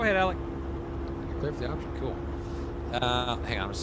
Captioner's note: radio chatter